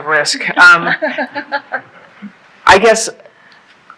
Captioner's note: laughing